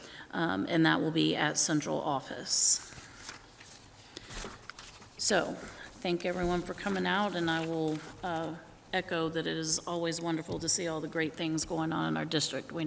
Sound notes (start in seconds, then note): none